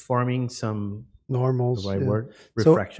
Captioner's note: chatter